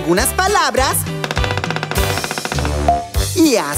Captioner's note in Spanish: Sonido de pájaro carpintero